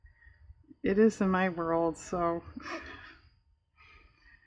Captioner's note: laughs